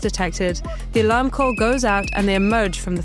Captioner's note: whistle tooting